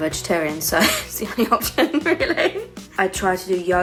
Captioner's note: laughing